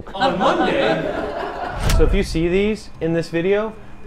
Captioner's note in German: lachen